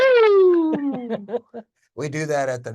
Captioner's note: cheering; laughs; chuckles